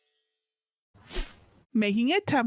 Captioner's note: magic sparkling; screen whooshing